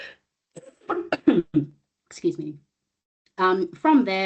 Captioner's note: coughs